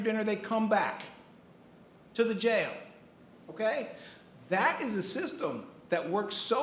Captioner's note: none